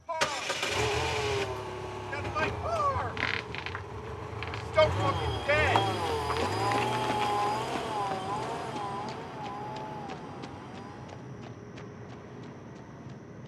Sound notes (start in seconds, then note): 0.2 car engine turns over; 5.0 car engine purring